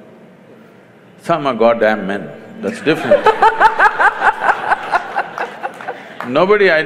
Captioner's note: laughter